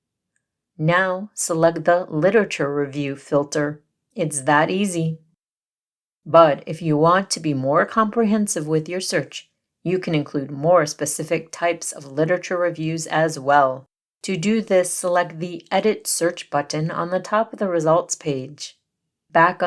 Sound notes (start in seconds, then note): 5.4 pause